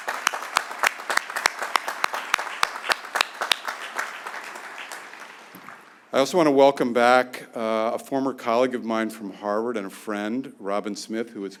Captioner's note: applause